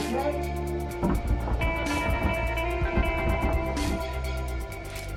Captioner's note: door handle jiggling